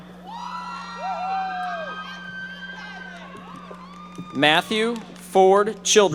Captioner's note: audience members shouting